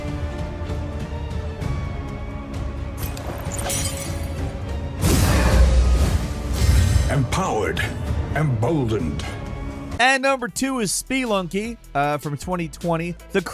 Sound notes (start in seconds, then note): 3.0 sword clanging; 5.0 explosion blasts